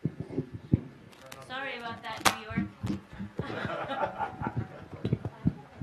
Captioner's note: laughter